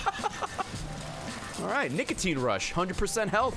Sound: laughs

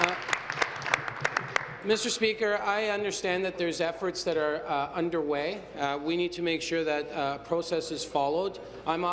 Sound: applause

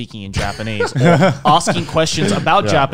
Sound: men laughing

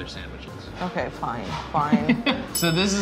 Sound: laughing

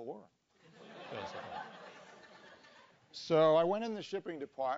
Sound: laugh

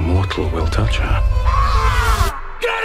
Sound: screaming

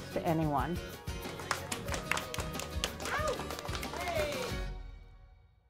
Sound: clapping

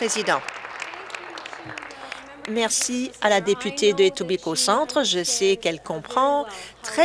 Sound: applause

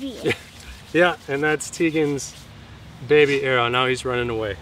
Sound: laughs

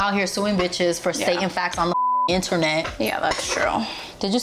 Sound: beep

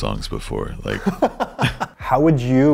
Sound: laugh

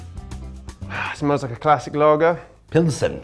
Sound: lively music; exhales deeply

